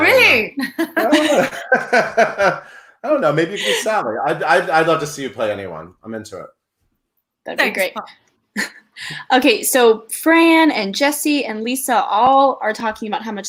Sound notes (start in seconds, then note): 0.6 laughs